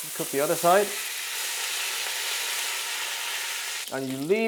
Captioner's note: sizzling sound